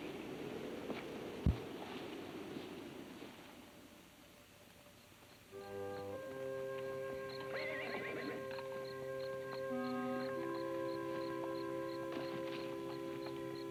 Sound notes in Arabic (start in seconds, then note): 5.8 موسيقى هادئة; 7.3 صهيل الحصان; 10.0 موسيقى هادئة